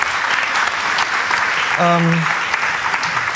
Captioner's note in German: Applaus